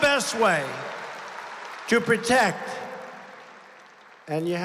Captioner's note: applause